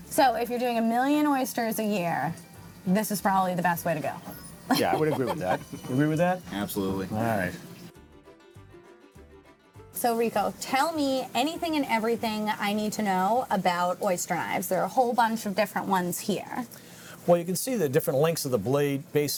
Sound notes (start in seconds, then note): 4.7 laughs